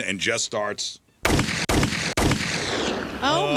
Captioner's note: gunshots